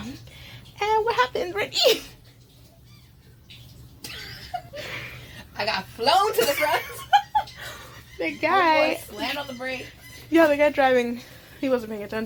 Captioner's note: laughter